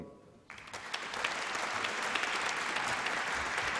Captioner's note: applause